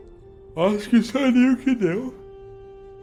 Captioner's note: yawning